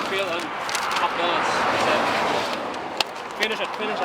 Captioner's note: car whooshing drowns out speaker